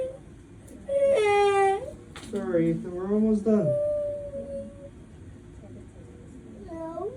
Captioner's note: sobbing